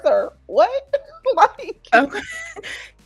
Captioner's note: laughing